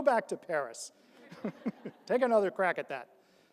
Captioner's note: all laugh